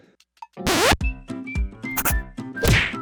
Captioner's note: record scratches; cheerful music; punch thuds; board scratches